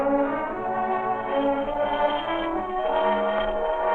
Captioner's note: doorbell ringing